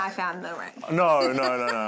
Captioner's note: laughter